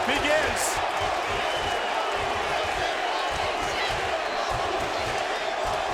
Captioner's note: crowd chants "Holy shit"